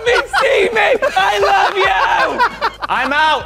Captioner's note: Bobby laughing